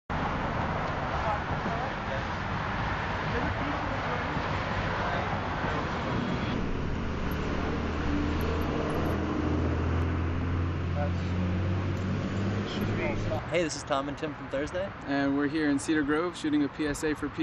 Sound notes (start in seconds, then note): 13.5 traffic noise